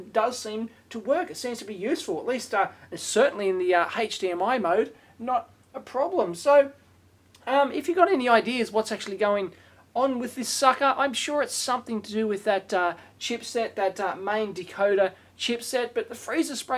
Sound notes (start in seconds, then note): none